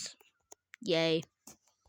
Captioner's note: more awkward silence; silence of the lambs? no. silence of the awkward